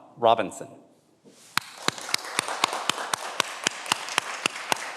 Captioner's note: everyone applauds